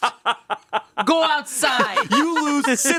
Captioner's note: continues laughing